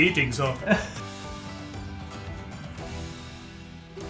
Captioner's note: men laughing